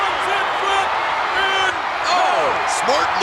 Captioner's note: audience cheers